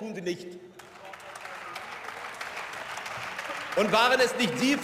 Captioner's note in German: Beifall